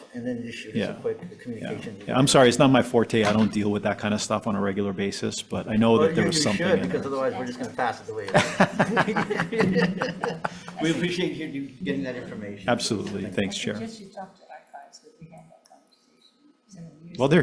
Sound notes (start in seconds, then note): 8.2 chuckling